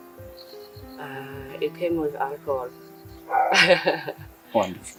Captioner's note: laughs off again